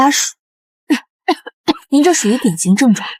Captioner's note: coughs